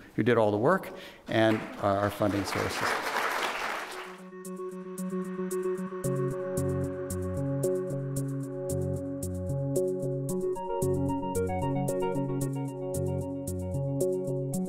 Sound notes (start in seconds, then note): 2.8 audience applauds; 3.7 electronic music